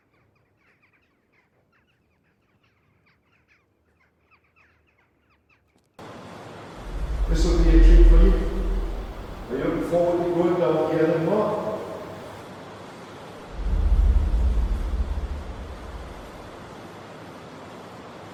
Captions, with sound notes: This’ll be a treat. Are you looking forward to going down here then? (Loud coal trucks moving)